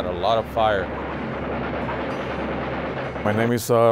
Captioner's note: machine guns roar